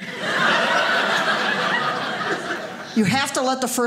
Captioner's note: audience laughing